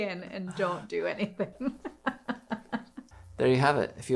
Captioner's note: laughing